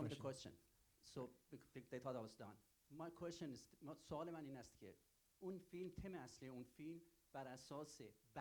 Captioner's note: continued in Persian